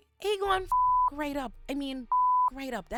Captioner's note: beep